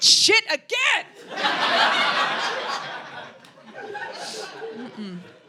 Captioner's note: audience laughing